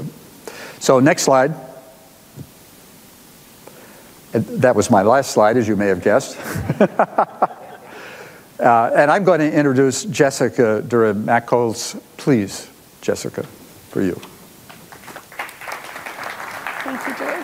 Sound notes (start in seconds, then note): 6.4 audience laughs; 14.6 audience applauding